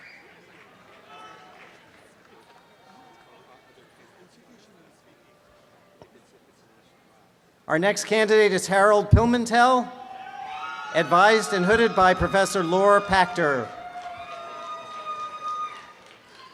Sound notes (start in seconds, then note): 9.9 students cheer; 13.8 students cheer and applaud